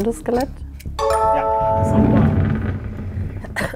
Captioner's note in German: Klingeln